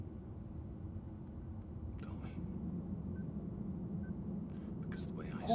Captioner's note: faint beeping